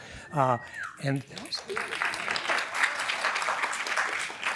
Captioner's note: applause